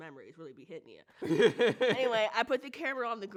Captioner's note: laughs